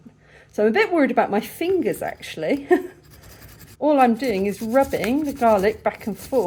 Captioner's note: nervous laugh